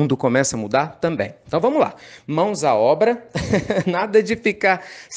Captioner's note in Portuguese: Risos